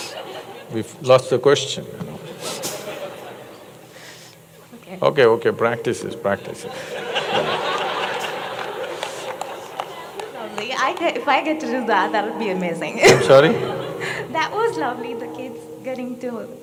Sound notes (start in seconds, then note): 2.2 laughter; 6.3 laughter; 13.0 laughter